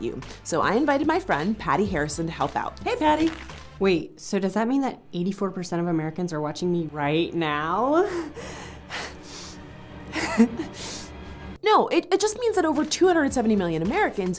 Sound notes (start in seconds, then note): 8.3 giggles nervously